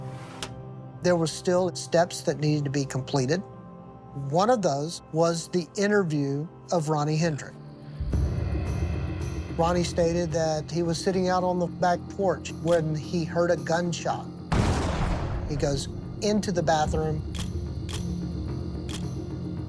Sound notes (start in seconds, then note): 14.5 gunshot blasting; 17.3 photos clicking